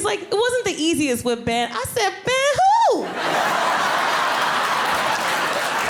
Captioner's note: audience laughing